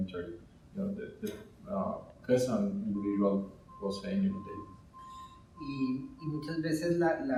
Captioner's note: speaking in Spanish